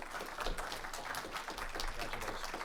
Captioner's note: audience applauding